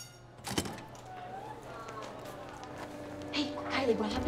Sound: indistinct chatter

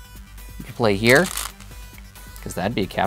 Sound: stones rattling

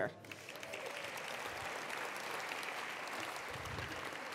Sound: attendees applauding

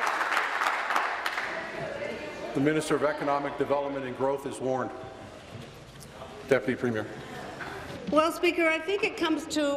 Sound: applause

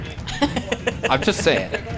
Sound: laughing

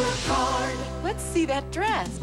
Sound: whoosh

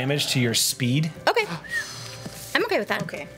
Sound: whistles

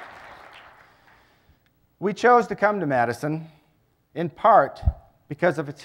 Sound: applause

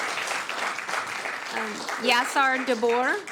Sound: applause

